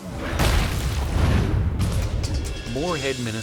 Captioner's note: logo slams